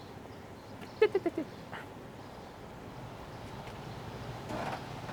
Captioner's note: Weiss mutters